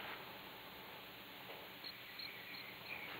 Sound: none

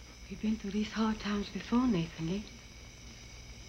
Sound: none

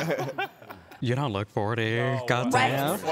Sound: laughs

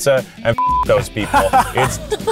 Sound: beep

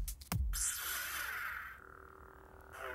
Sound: lightsaber sounds

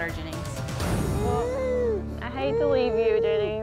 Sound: baby cooing

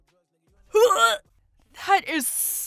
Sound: dry heaves

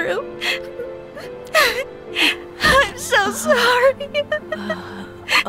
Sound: crying

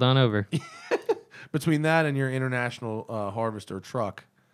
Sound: laughter

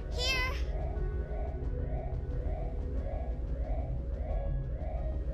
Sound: alarm continues blaring

